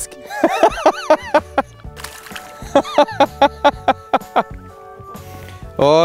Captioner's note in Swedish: skrattar